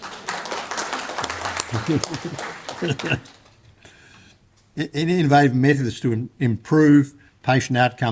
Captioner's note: applause